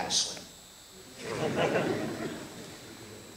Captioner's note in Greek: Γέλια από το ακροατήριο